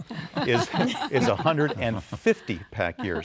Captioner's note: laughter